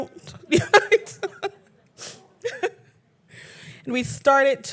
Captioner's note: laughing